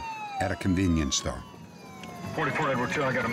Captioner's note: sirens wailing